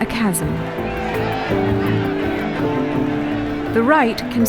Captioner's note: crowd chanting